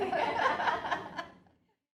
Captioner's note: women laugh